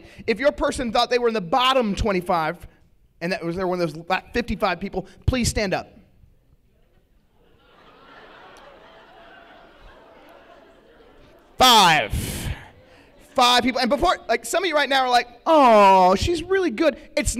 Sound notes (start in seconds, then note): 6.7 laughter